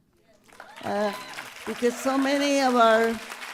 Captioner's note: applause